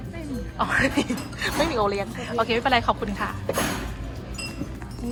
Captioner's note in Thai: หัวเราะ